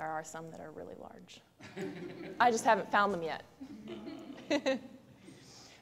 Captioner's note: laughter